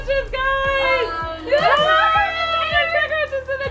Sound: group shrieking and cross talking

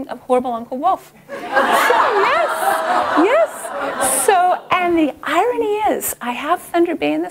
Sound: laughter

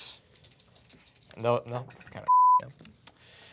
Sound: beep

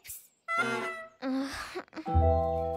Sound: groans

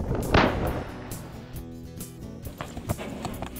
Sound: gun bangs

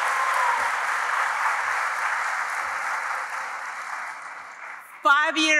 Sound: applause

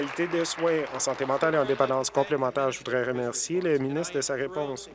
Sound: applause

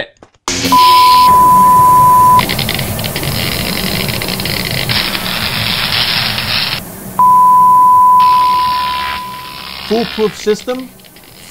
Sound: electrical crackling and signal tone

